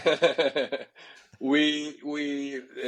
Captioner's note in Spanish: risas